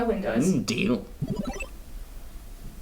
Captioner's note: digital bubble tone